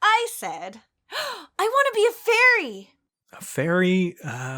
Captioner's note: gasp